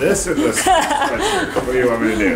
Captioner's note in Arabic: يضحك